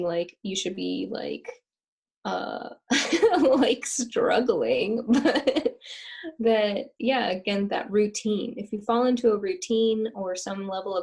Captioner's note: laughter